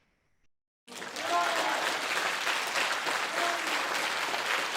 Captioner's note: crowd applauds